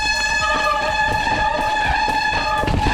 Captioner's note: thudding